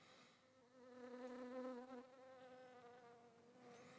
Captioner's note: fly buzzing